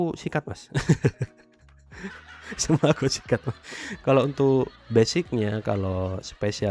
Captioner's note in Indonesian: tertawa